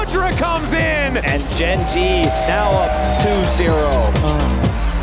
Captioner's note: crowd cheering